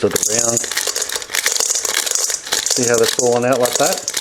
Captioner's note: corn kernels rattling